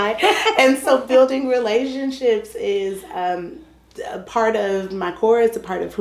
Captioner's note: laughter